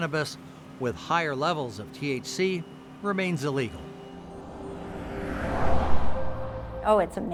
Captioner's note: traffic sounds